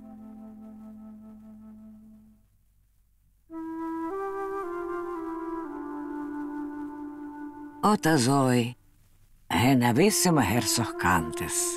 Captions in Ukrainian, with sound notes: БОБЕ МАЙСЕС (голос дикторки ідишем) Послухайте дивну історію.